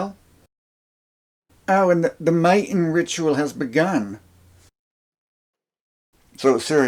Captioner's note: outback guy voice